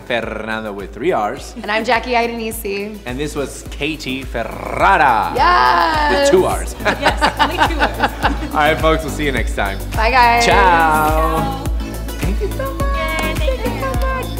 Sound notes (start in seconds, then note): 5.7 laughs; 11.9 beat music